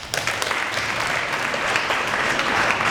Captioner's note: applause